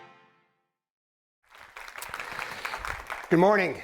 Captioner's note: applause